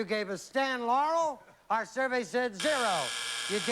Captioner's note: buzz